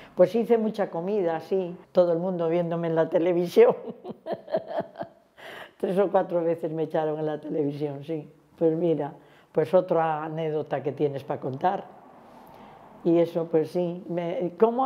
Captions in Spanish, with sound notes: Pues hice mucha comida, sí. Todo el mundo viéndome en la televisión. [Ríe]. Tres o cuatro veces me echaron en la televisión. Sí, pues mira, pues otra anécdota que tienes para contar. Y eso, pues sí, "¿Cómo